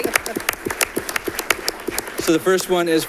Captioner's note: audience clapping